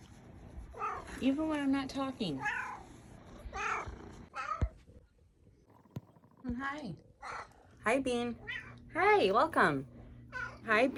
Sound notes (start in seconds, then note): 0.8 meows; 3.5 meow; 4.3 meows; 8.4 meow; 10.3 meow